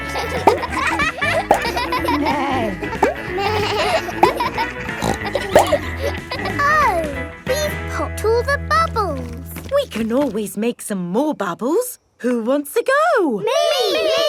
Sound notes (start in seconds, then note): 0.1 barks; 2.5 bleats; 2.5 neighs; 5.5 snorts